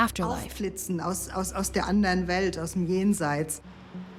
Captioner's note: speaks in German